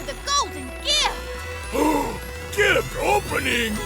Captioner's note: gasps